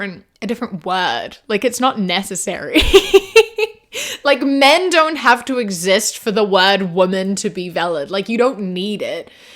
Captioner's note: laughs